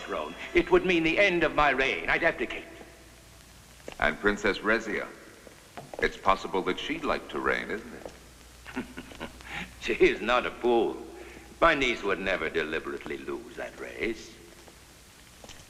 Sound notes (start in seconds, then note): 8.6 laughing